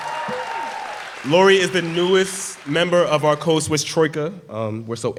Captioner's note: applause